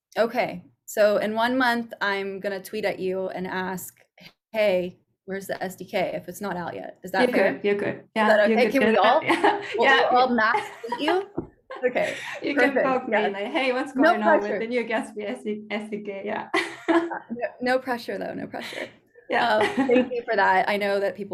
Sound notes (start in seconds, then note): 16.5 laughing